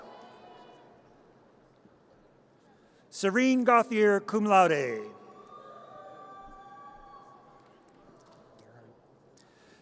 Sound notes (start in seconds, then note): 0.2 audience cheers; 5.5 audience cheers